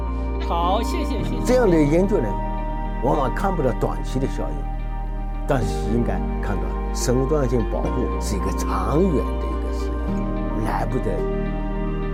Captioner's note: speaking Chinese